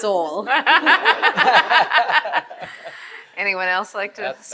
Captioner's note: attendees laughing